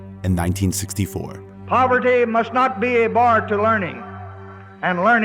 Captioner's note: soundbite of archived recording